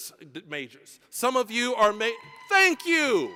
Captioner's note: audience cheering